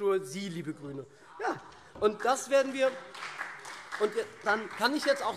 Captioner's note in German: Beifall SPD und vereinzelt CDU